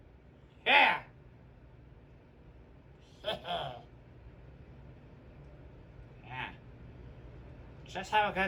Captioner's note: laughs